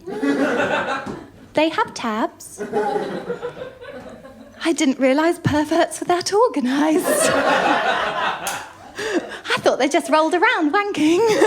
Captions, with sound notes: [LAUGHTER] "They have tabs?" [LAUGHTER] "I didn’t realise perverts were that organised." [LAUGHTER] "I thought they just rolled around wanking."